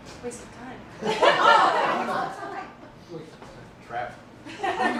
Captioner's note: laughter